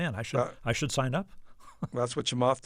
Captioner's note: laughter